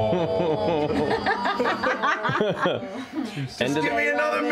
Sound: group aw; laughter

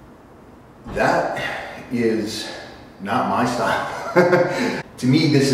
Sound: laugh

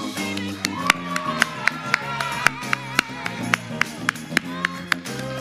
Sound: audience applauds

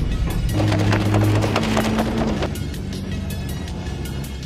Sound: rubber flapping

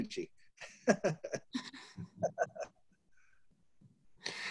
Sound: laughing

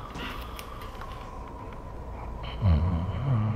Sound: snoring gets louder

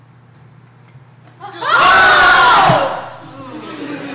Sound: screams

